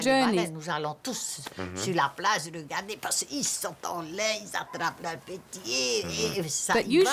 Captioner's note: speaking French